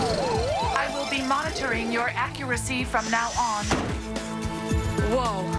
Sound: pat

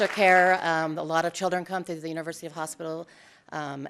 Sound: applause

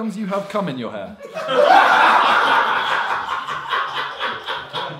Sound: audience laughs

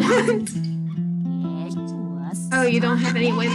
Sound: laughs

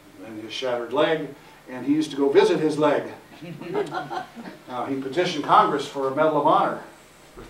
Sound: laughter

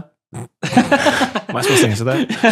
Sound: laughing

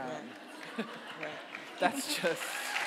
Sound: audience applauding; audience laughing

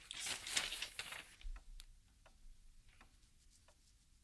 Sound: clock ticking

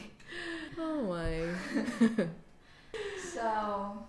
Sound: laughing

